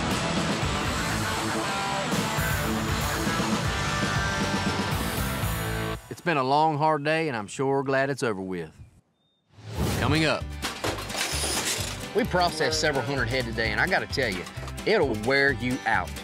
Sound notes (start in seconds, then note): 10.5 gate clangs